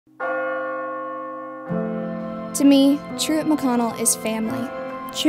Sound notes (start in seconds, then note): 0.2 bell tolling; 1.7 inspirational music